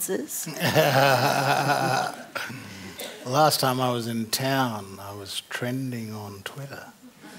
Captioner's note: laughter; laughter